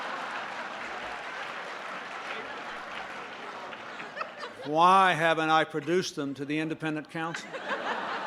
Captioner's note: laughter